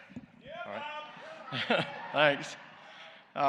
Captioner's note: laughs